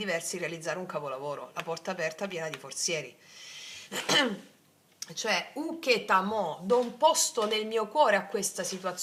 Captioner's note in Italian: schiarire la voce